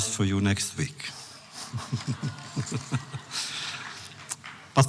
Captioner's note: laughs